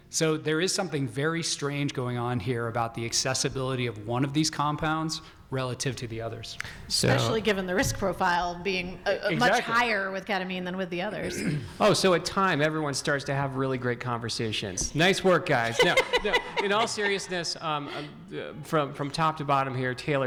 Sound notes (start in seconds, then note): 15.6 laughing